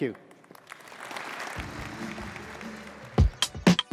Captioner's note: applause